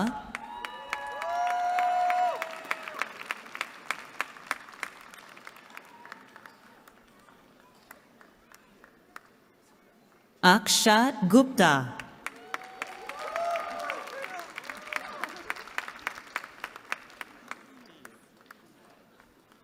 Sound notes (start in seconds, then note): 0.0 cheering; 12.2 cheering